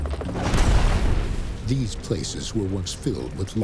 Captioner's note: fire burning